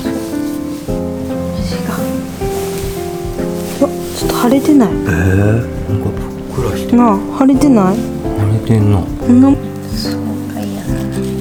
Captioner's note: tears